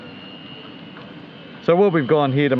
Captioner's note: mechanical whirring